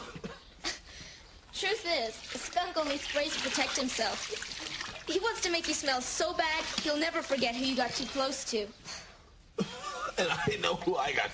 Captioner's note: coughs